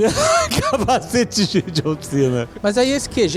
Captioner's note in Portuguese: risos